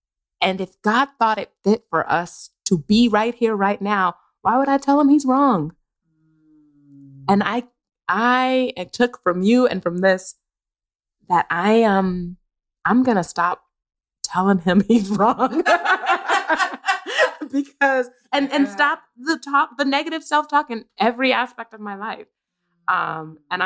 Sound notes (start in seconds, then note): 15.2 laughter